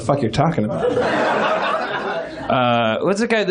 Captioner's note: laughs